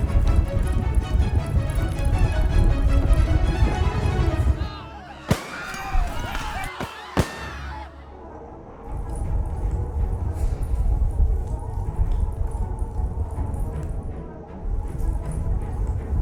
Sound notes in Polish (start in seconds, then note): 0.0 głęboki łoskot końskiego galopu; 4.6 krzyki, płacz, ogłosy wystrzałów